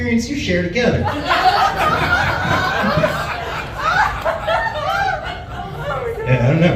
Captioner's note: laughs